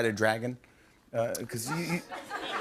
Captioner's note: laughter